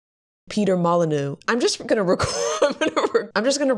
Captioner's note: laughing